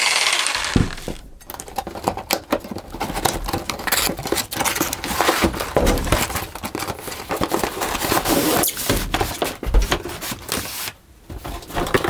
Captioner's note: crunching plastic bags; rustling cardboard